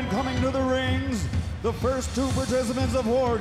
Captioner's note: crowd chatter